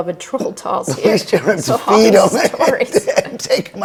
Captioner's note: laughing